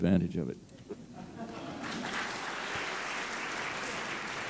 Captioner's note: applause